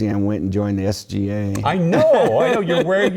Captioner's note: laugh